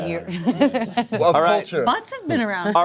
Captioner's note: laughs